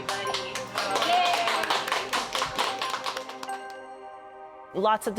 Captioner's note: group cheering and clapping